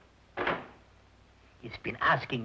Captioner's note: door thudding